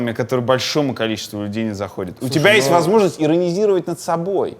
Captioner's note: none